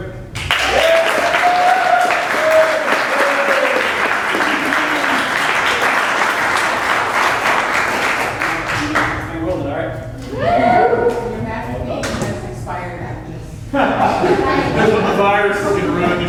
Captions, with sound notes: [APPLAUSE] AND WE'RE GOING TO GET THINGS ROLLING, ALRIGHT. [CHEERING]